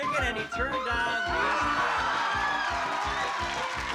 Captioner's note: applause, cheering